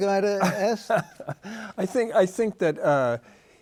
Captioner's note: chuckles